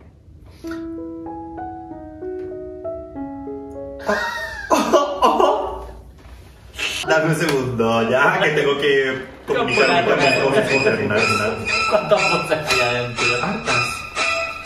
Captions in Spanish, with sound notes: Ho - ooh ooh [risas] Dame un segundo ya, que tengo que comunicarme con mis voces internas [risas] ¿Cuántas voces hay adentro? Hartas